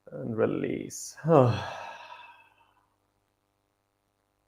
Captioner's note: exhales